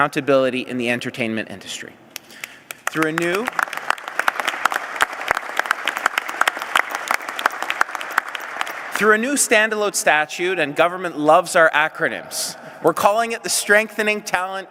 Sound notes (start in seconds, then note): 4.3 applause